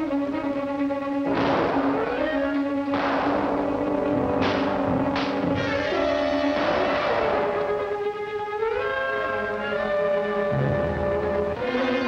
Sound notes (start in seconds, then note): 1.2 shooting; 8.6 slow ominous music